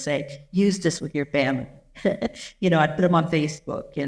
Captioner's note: chuckles